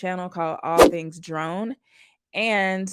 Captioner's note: swoosh